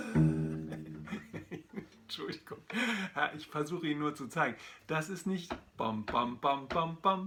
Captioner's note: laughing